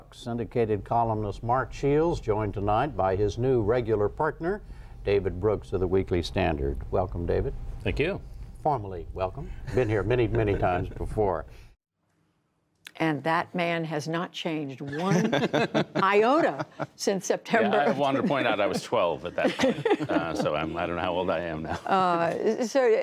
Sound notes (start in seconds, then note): 14.8 laughter; 19.5 laughter